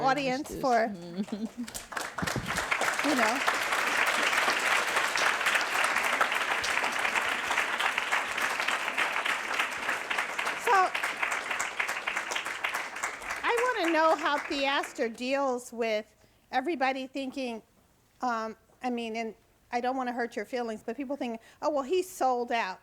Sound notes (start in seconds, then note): 3.2 audience applauds